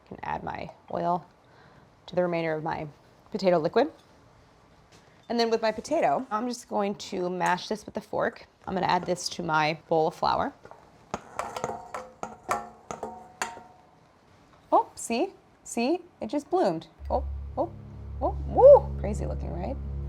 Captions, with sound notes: Can add my oil to the remainder of my potato liquid. And then with my potato, I'm just going to mash this with a fork. I'm gonna add this to my bowl of flour. (bowl clanging) Oh see. See, it just bloomed. Oh, oh, oh. Woo. (ominous music) Crazy looking, right?